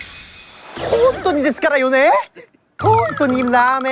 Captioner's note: suddenly speaks Japanese